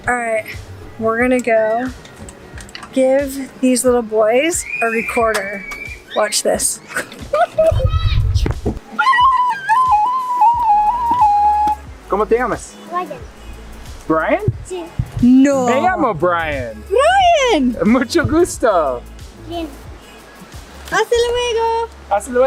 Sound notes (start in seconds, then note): 6.8 giggles; 9.2 recorder playing; 12.2 speaking in foreign language; 15.0 speaking in foreign language